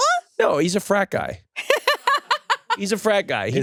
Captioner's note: laughs